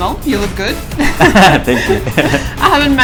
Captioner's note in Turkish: Ahaha